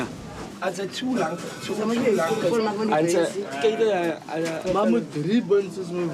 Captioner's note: man speaking in foreign language